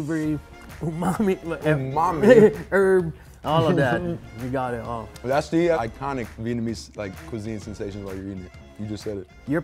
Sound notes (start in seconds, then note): 0.8 laughing